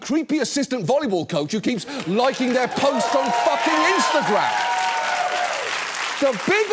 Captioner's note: audience cheers and claps